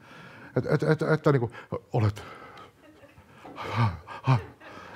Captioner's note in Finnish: naurua yleisöstä